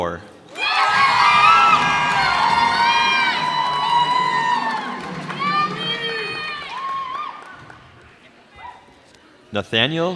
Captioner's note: cheers and applause